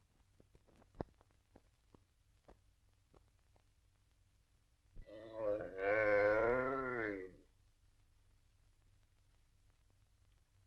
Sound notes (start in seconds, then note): 5.0 yawning